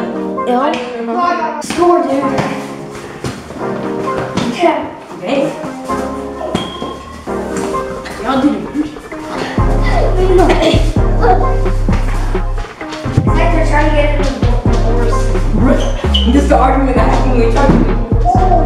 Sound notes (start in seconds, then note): 10.1 struggling